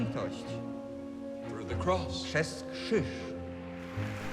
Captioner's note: translates in Polish; cheers and applause